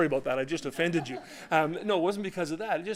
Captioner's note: laughter